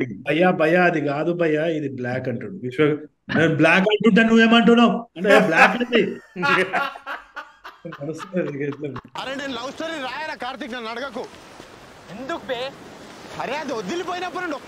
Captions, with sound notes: Bhaiya Bhaiya it is black *imitating Vishwak* I’m telling you this is black, what are you arguing about? This is black!